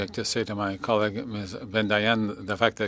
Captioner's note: speaking in French